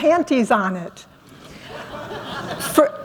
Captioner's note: laughter